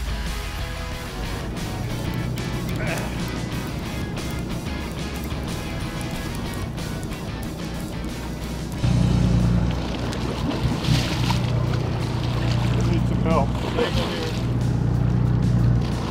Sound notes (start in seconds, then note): 2.8 man grunts; 10.4 water splashing